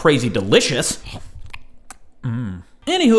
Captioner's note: munching sounds